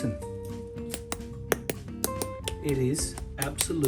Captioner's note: spoon tapping